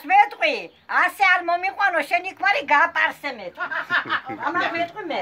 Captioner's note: in Georgian; laughter